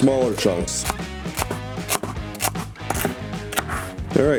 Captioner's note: knife thuds